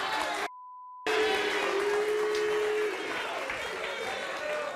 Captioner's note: audience boo's and claps